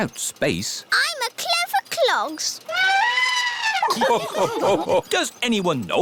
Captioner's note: trumpets; all laugh